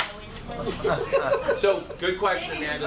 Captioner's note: group laughs